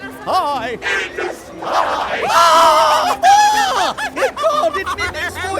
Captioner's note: in an unholy legion of voices